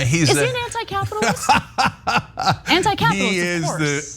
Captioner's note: laugh